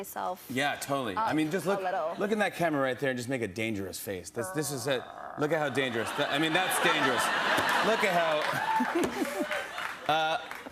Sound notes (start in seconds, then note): 4.4 growls; 8.5 laughter, applause